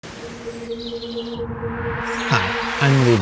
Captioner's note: birds chirping; gentle music